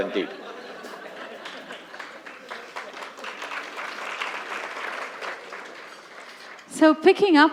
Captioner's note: laughter & Applause